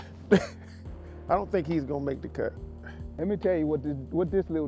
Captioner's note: laughs